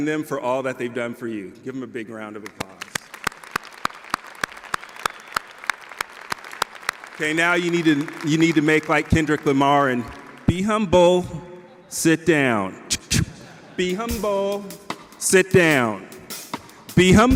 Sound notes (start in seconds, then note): 2.5 audience applause